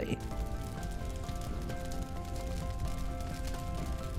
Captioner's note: wood crackling